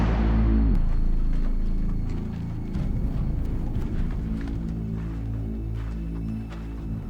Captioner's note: suspenseful music; wind blowing